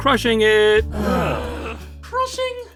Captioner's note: everyone groans